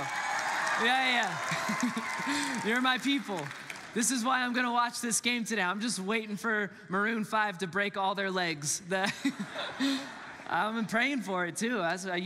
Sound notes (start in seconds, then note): 0.0 congregants cheer; 1.4 laughs; 9.0 congregants laughs